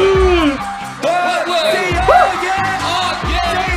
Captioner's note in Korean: 후후!